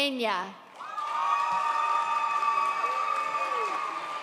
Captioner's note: audience cheers